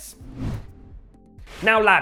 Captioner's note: transition whooshing